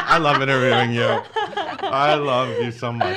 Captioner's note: laughs